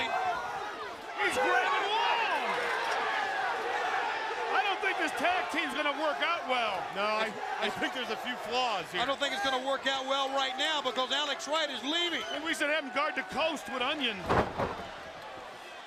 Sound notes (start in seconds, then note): 5.4 crowd chatter